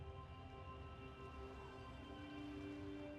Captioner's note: water laps